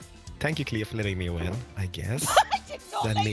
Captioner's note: laughs